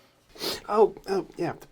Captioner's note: sniffs